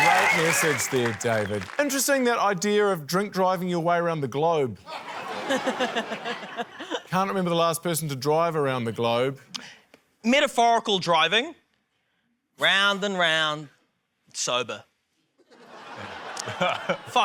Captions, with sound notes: - Great message there, David. Interesting, that idea of drink driving your way around the globe. (LAUGHTER) Can't remember the last person to drive around the globe. - Metaphorical driving. Round and round, sober. (SCATTERED LAUGHTER)